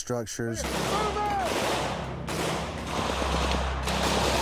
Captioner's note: gunfire